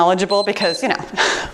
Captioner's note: timer beeps